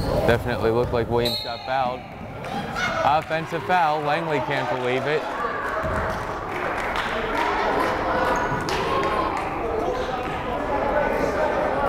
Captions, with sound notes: Definitely looked like Williams got fouled. (whistle blows) Offensive foul, Langley can't believe it. (crowd cheering and applauding)